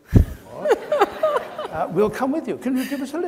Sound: audience laughs

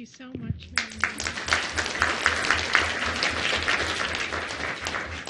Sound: audience applause

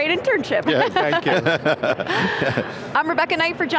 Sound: group chuckles

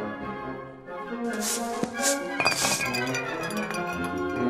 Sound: sweep sweep

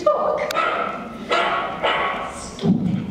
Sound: barking

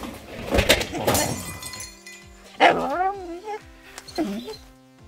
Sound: BREAKING WINDOW, dog whining

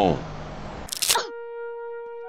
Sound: crack

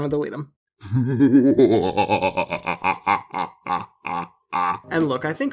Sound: evil cackling

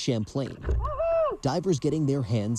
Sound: indistinguishable cheer

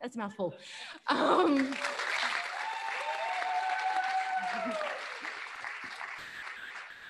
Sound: audience applauding; audience cheering

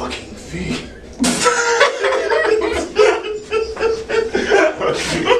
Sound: all laughing

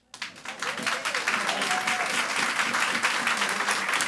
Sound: audience applauds

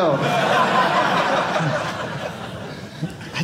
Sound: audience laughing

